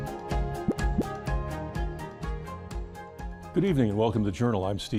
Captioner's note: graphic pops